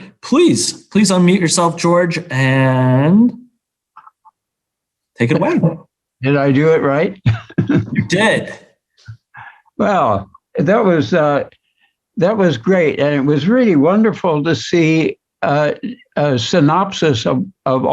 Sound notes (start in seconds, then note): 7.2 chuckles